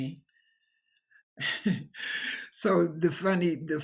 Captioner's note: chuckles